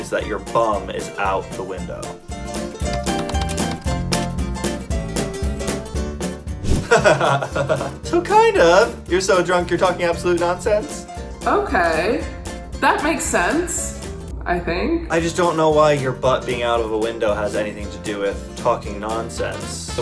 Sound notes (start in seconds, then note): 2.2 upbeat music; 6.8 laughs